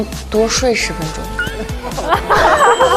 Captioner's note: bursts into laughter